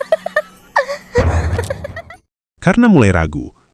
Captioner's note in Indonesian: tertawa